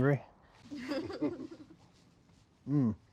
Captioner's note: chuckling